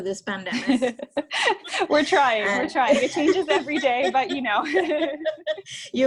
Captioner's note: laughs